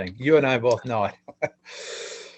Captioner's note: chuckles